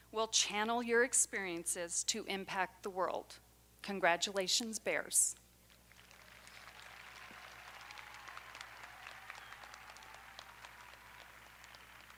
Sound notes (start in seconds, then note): 5.8 audience applauding